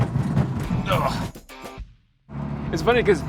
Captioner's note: groaning